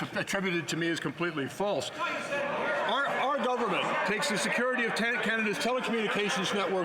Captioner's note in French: voix de l'interprète